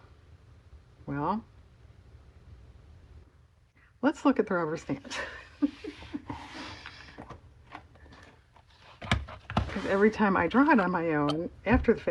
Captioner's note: laughs